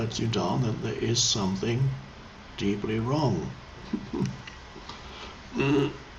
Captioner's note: chuckles